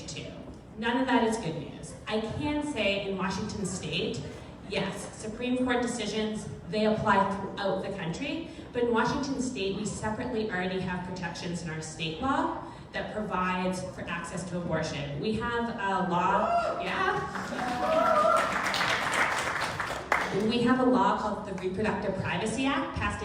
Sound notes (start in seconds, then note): 16.8 crowd cheering